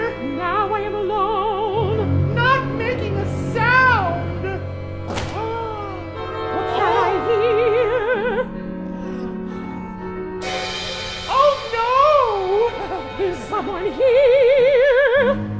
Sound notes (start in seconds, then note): 2.3 client in falsetto; 5.1 lollipop drops; 11.1 client in falsetto